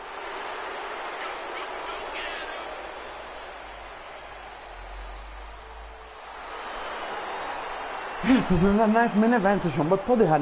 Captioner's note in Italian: Applauso